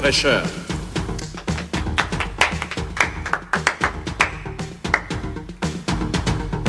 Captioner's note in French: faibles applaudissements